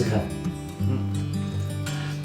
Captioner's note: nonverbal grunt as interjection